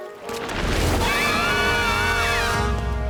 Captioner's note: screaming